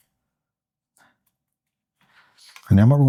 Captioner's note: silence